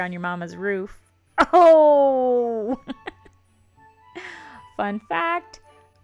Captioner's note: giggles